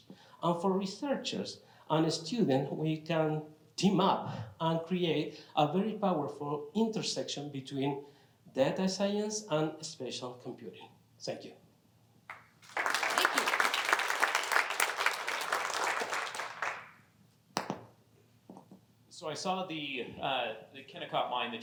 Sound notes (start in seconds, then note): 12.3 applause